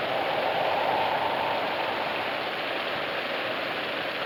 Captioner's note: wind blowing